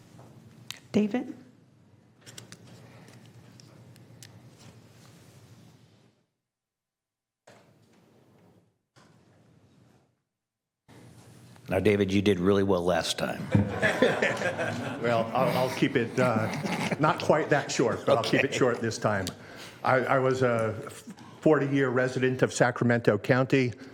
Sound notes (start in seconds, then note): 17.8 laughter